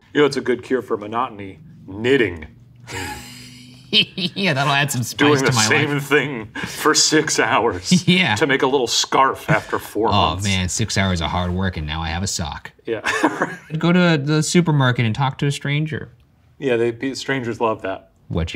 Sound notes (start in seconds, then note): 2.8 laughs; 13.2 laughs